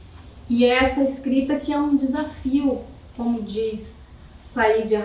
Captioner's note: speaking portuguese